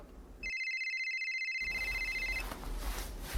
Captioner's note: phone rings